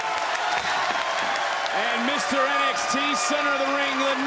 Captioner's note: crowd chants "ciampa"